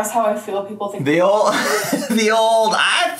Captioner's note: laughing